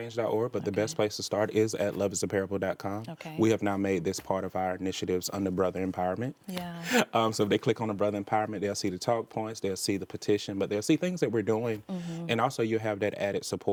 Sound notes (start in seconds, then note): 6.8 chuckles